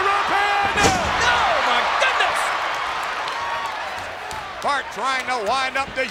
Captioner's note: audience cheers